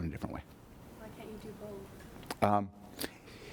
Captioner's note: voiceover